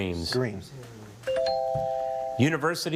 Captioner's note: bell chimes